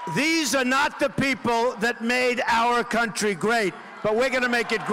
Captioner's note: cheers and applause